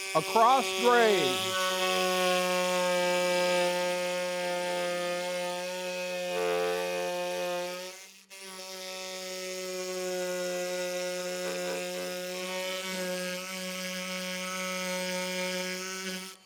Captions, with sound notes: Across grain. (sawing)